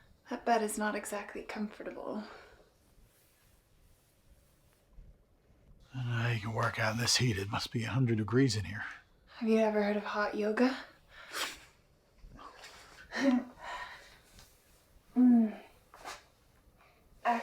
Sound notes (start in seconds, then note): 10.9 laughs